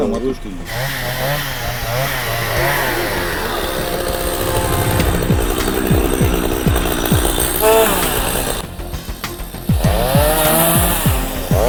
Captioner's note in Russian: звук работающей бензопилы